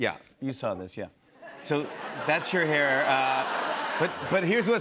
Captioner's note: laughter